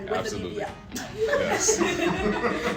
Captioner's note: crowd laughing